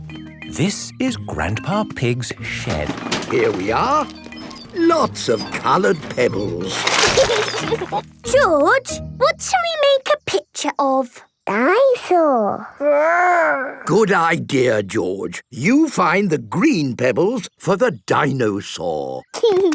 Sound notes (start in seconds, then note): 2.3 bangs and rattles; 7.0 laughing